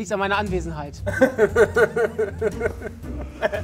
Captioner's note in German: Lachen